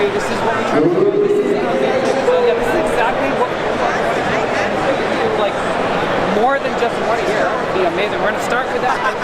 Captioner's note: PA Blaring Loudly